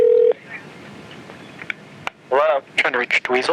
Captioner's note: phone ringing